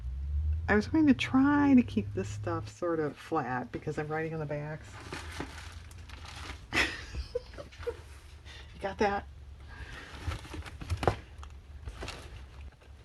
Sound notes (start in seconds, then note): 6.7 laughs